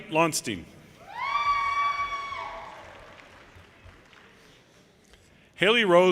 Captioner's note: audience cheers and applause